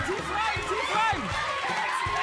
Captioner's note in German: Jubel